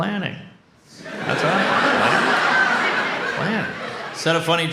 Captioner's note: audience laughs